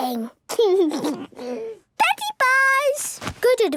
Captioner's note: laugh